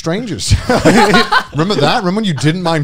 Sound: both chuckling

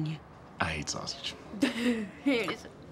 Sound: laughs

